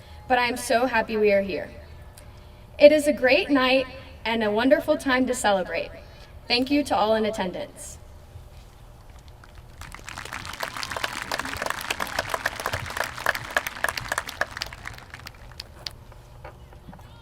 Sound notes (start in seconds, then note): 9.2 applause from crowd